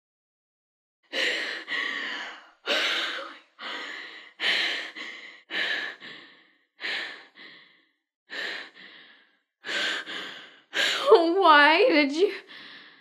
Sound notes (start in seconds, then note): 1.0 panting